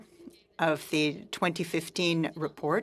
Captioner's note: speaking french